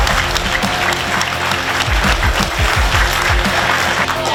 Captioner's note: audience clapping